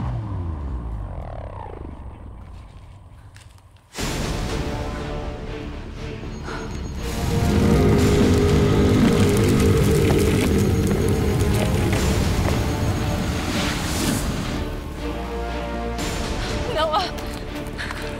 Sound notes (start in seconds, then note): 2.8 thrilling music; 6.8 dramatic groaning